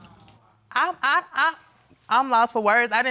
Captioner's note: stammers